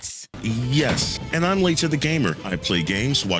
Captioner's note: door slams as leaves